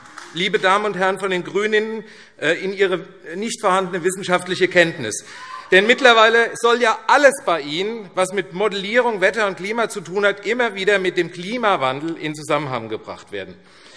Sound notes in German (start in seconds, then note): 5.1 Lachen BÜNDNIS 90/DIE GRÜNEN